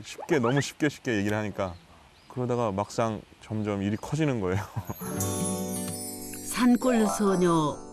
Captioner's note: hehehehehehehe